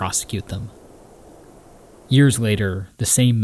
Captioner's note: wind whooshing